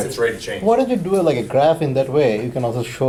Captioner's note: voiceover